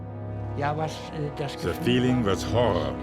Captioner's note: speaking in foreign language